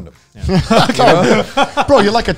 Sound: laughing

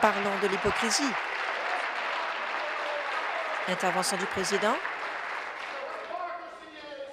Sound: applause

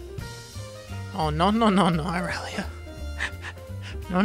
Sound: beginning to laugh

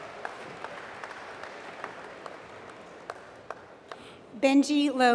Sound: applause

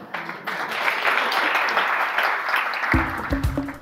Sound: audience applause; uptempo music

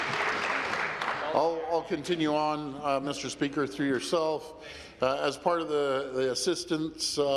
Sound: applause

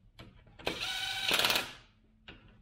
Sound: impact wrench whirring

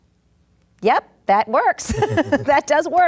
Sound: laughs

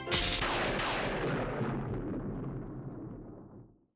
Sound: thunder

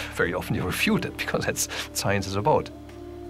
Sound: chuckles

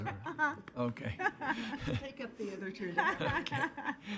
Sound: laughter

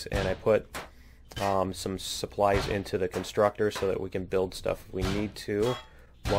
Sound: pinging

